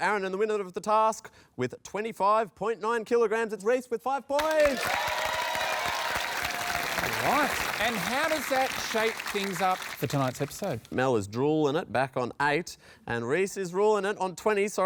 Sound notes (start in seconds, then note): 4.3 cheering, applause